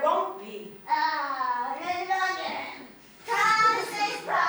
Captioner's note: mocking